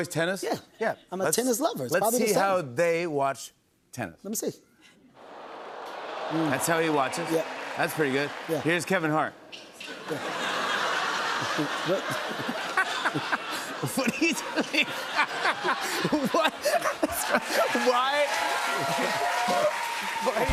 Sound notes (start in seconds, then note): 9.9 laughter; 19.2 cheers and applause